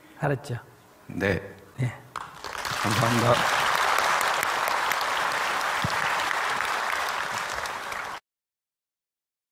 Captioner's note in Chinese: 听众鼓掌